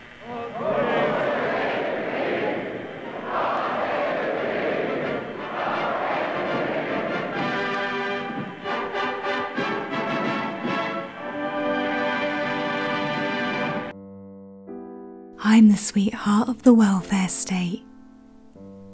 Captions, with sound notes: God save the Queen God save the Queen God save the Queen [Soft piano music playing] [Voiceover] I'm the sweetheart of the welfare state